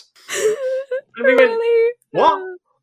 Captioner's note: laughs